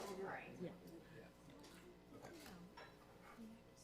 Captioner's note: people chattering